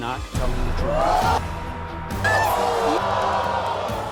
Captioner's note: groaning